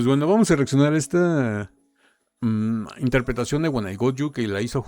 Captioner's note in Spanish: none